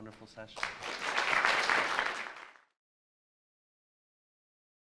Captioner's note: audience applauds